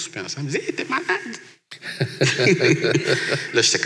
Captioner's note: laughs